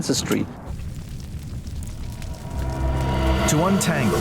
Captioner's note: fire crackling